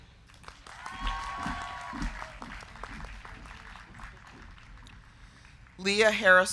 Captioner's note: crowd clapping; crowd cheering